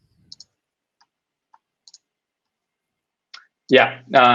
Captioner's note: mouse clicking